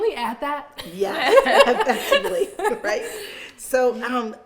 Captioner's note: all laughing